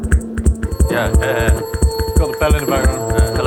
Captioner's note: chuckles